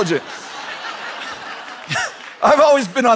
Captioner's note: laughter